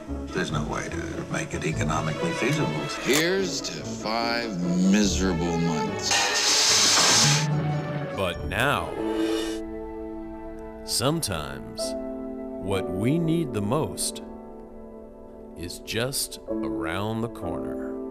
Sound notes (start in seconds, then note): 8.6 male Voice